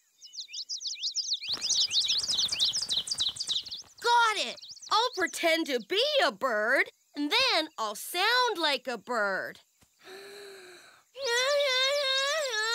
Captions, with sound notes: (BIRDS CHIRP) GOT IT! I'LL PRETEND TO BE A BIRD! THEN I'LL SOUND LIKE A BIRD. (INHALE) (OFF-KEY HUMMING)